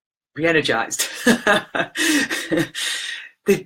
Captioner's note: laughs